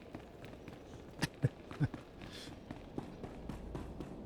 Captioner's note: laughs